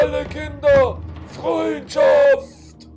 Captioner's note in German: schreiend